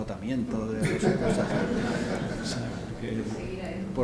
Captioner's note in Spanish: risas